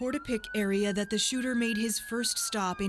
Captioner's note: sirens